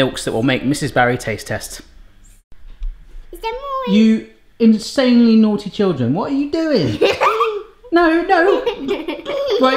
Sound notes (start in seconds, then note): 8.4 laughter